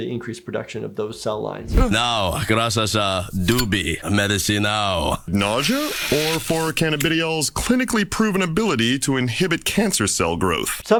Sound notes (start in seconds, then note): 1.9 Archer speaks Portuguese